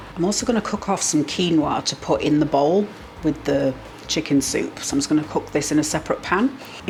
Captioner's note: none